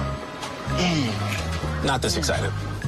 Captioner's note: grunting